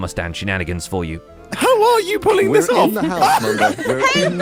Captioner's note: laughs